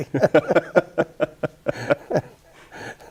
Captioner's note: both chuckle